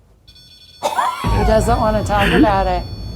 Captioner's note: EMV beeping